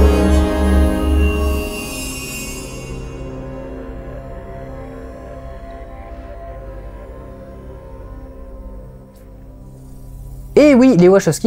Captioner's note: increasingly faint static